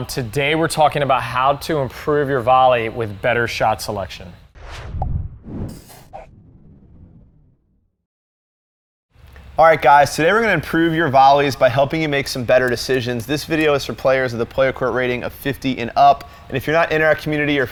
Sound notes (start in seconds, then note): 4.5 swooshing; 4.7 balloon popping